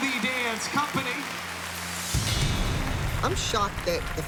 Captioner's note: cheering